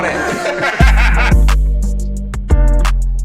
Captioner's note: group laughs; mellow hip hop music